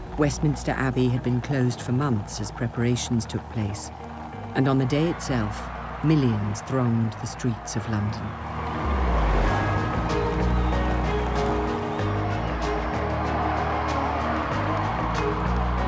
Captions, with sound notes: Westminster Abbey had been closed for months as preparations took place. And on the day itself, (crowd cheering) millions throned the streets of London. (dramatic music) (crowd cheering)